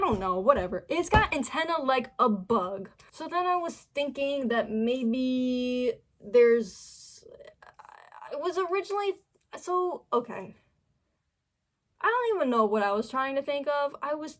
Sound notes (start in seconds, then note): 7.0 stammering